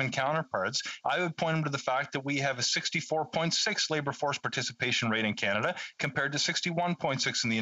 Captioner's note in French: voix de l'interprète